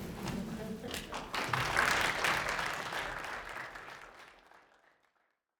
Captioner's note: applause